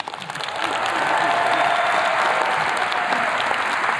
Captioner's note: attendees clapping